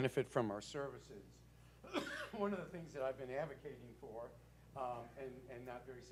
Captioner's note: cough